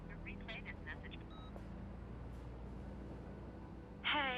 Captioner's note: beep